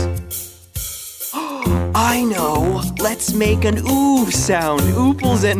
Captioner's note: gasping